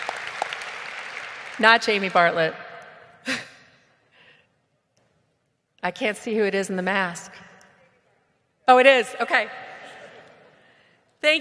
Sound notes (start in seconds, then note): 3.7 chuckles